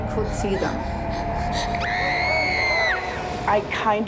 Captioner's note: Reenactment Bryn screams